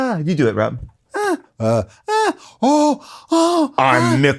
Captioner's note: gasps